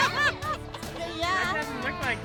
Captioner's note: crying